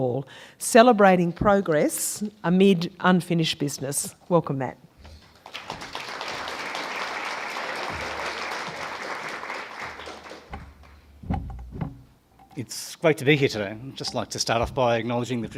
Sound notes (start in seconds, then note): 8.2 applause